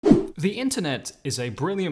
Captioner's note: whoosh